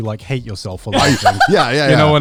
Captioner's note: laughing